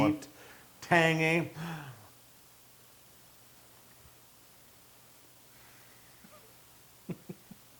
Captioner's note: laugh